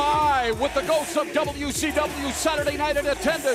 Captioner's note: crowd cheering